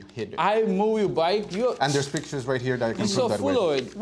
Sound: scoffs

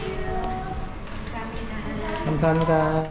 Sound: speaking in Korean

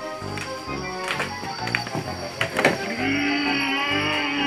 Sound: spooky noise continues

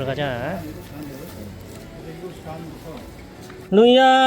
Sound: Ddunbbang girls eating deliciously♥

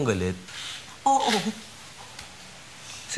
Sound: chuckles

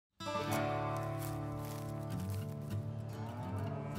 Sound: gentle upbeat music; corn rustling; cows mooing

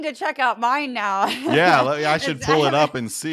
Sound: laugh

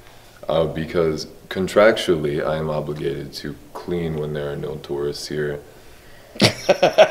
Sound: laugh

